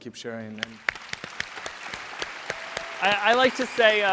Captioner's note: audience applauds